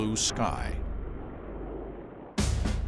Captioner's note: engines roaring